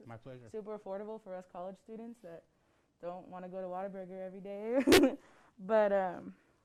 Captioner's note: laughs